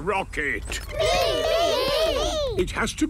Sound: calling out in turn

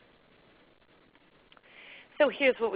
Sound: silence

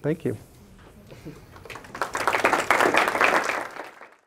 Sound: applause

